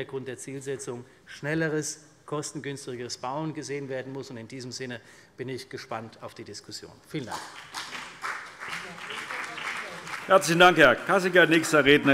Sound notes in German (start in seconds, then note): 7.2 Beifall CDU und BÜNDNIS 90/DIE GRÜNEN